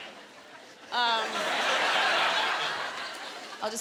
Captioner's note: laughter